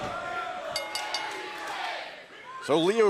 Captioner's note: bell ringing